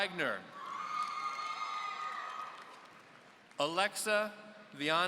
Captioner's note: audience cheering